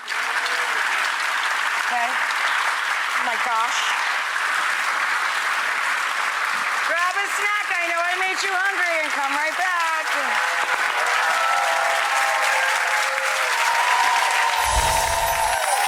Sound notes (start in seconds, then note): 0.3 audience applauds; 4.2 applause continues; 10.2 audience applauds and cheers